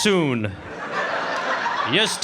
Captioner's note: audience laughing